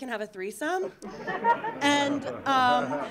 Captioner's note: audience laughing